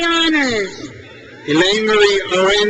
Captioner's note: crowd cheers